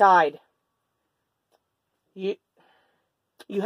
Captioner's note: exhale